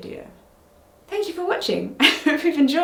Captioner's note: laughs